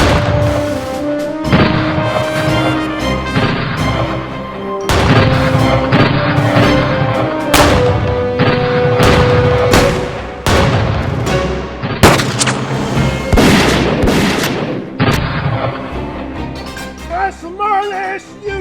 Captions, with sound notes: back toward town and ride. - Hold your ground, boys, we're settlin' this tonight. - Call it Bald Knobber! (guns firing)